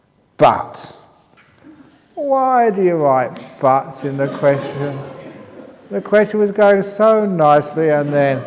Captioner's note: laughter